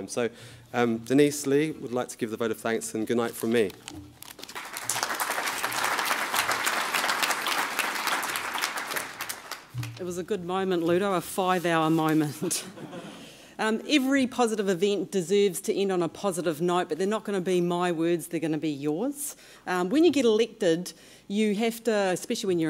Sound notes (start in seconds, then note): 4.4 applause; 12.6 chuckling